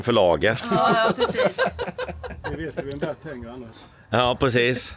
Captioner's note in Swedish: skratt